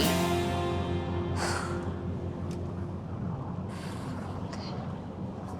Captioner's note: exhales